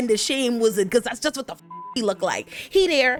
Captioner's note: beep